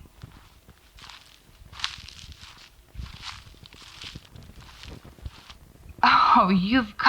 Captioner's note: footsteps